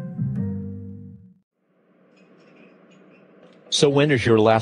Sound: dishes clinking, background chatter

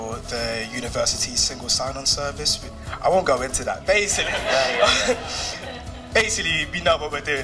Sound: laughter

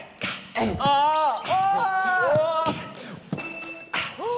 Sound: beatbox increases the excitement

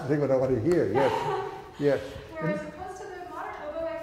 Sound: laughs

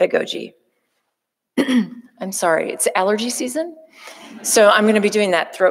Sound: coughing

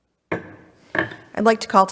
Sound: gavel strikes

